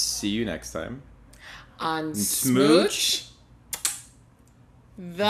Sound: lip smack

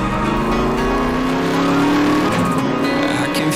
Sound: car engines roaring

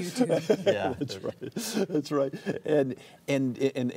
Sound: laughter

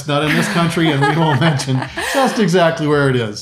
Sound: laughing

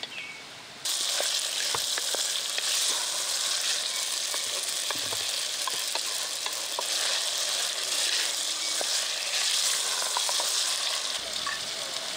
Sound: oil sizzling

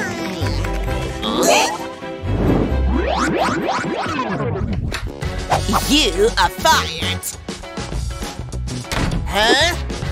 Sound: sounds of chatting, snoring, yawning, chomping

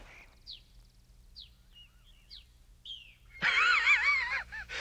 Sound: laughing

